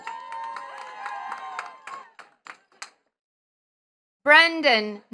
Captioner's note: attendees cheering and clapping